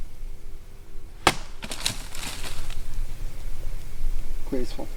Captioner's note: branch cracks; branch shatters